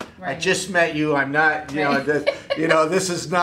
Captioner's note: laughing